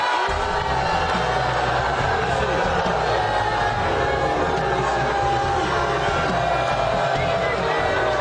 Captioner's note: crowd boos